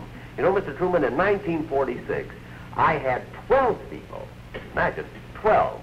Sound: none

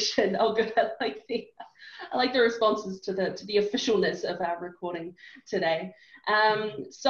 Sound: laughs

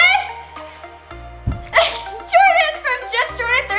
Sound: thuds

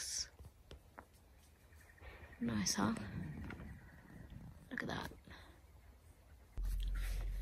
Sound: bird call amongst the quiet

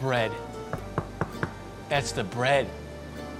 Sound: knocking

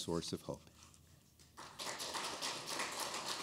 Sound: applause

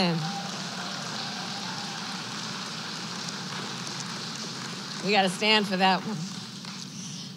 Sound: applause

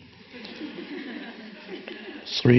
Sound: audience laughing

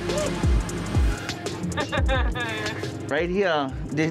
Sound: laughing

